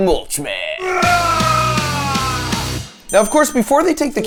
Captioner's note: screaming